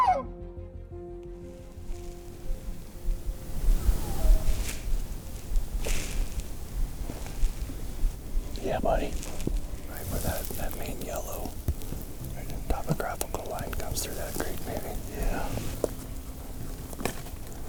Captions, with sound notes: (Elk bugle) Yeah buddy! Right where that, that main yellow... topographical line comes through that creek maybe. Yeah